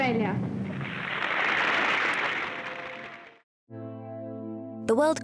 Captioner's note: crowd applauds